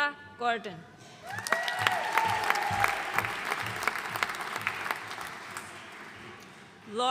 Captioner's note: audience cheering and applauding